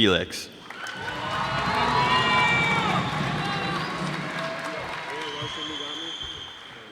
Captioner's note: cheers and applause